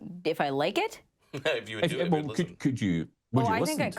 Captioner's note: chuckles